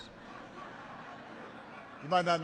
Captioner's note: laughter